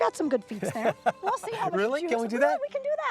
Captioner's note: laughter